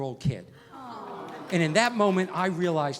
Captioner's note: crowd awwing